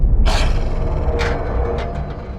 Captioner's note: growls